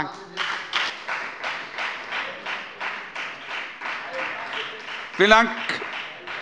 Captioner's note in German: Beifall bei der FDP